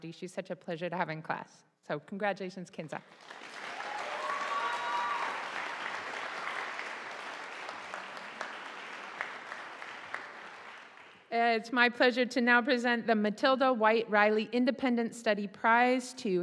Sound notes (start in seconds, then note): 3.1 audience applauding